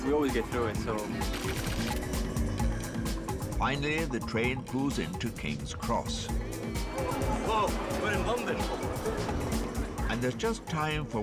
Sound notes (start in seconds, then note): 1.2 text clicking; 1.3 mellow music